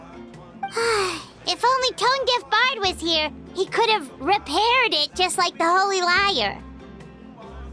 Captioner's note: sigh